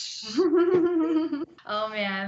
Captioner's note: laughs